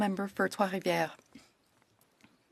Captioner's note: speaking French